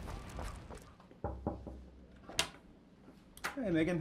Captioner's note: knocking on door